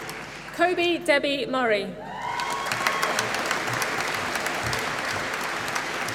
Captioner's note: applause